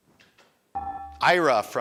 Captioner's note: buzzer dinging